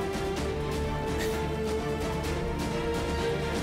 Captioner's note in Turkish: Gülüyor